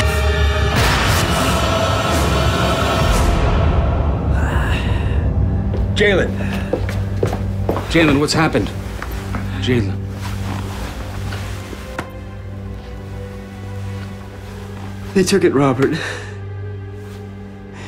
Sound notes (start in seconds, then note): 4.1 heavy breathing; 11.7 somber music